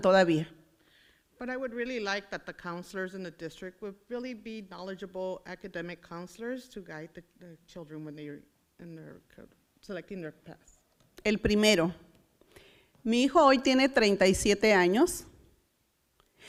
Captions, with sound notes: But I would really like that the counselors in the district would really be knowledgeable academic counselors to guide the children when they are selecting their paths. (foreign language)